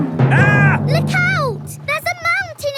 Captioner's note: captain dog screams